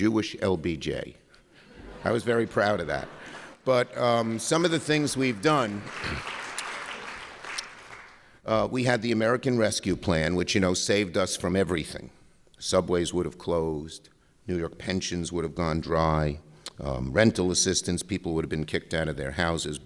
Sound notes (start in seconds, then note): 7.7 applause